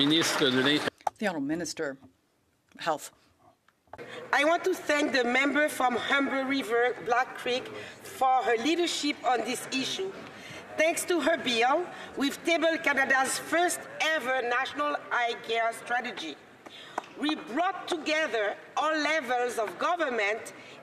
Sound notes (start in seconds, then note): 4.1 speaking French